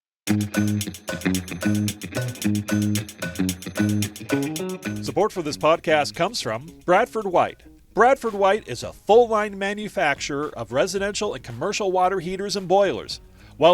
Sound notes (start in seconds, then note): 0.2 bright music; 5.1 voiceover